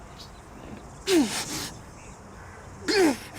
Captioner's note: grunts